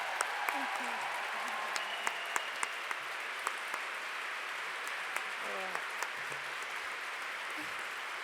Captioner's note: applause